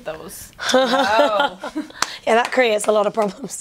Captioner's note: laughter